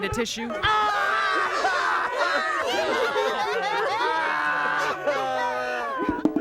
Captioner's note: all sobbing loudly